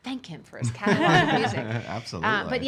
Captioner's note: laughing